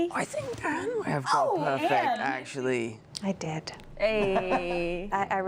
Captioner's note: laughter